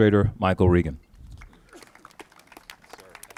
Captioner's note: applauses